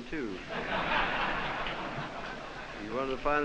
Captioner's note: laughter